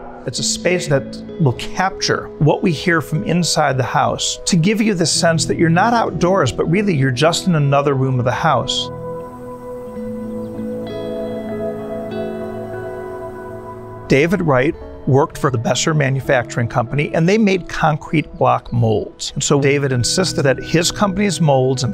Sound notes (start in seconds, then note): 0.0 voice reverberates strongly; 9.8 birds chirping; 9.8 soft idyllic music